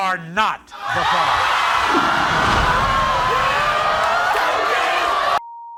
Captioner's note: audience roars